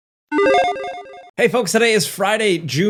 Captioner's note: logo beeping